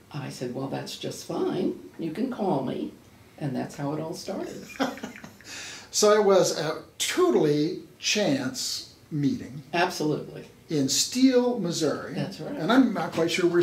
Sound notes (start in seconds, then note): 4.6 laughs